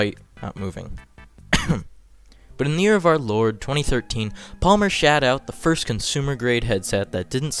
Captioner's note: cough